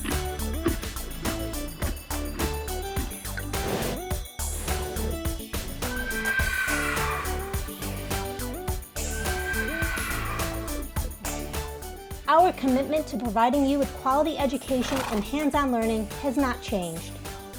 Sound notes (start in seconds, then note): 0.2 horse munching; 3.7 air whooshing; 5.9 horse neighing